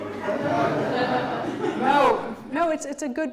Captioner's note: audience laughs